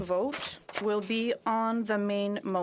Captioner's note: speaking French